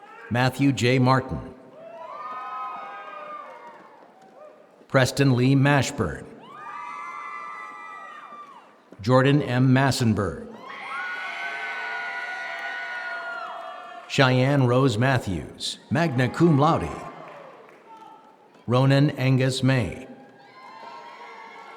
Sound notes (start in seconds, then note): 10.6 applause